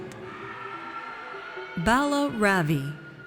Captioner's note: audience cheers